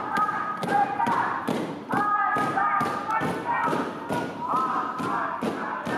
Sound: dancers feet stomping; muffled chanting

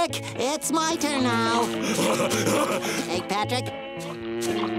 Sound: laughing

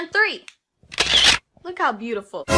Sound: shutter sound

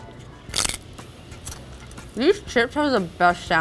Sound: chip crunching loudly

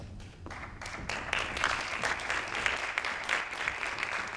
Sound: audience claps

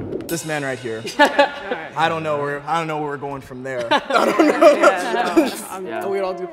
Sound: laughs

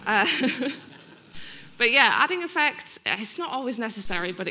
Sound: laughing; audience laughing

